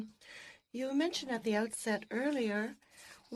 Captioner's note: speaking French